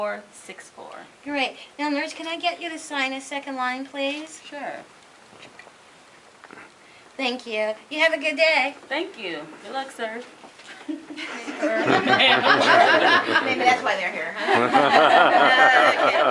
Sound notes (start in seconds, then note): 11.2 laughter; 14.4 more laughter